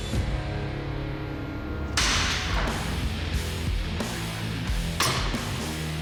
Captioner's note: blade impact sounds